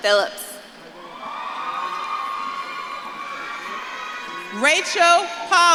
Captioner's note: audience claps and cheers